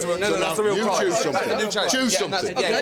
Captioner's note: all chattering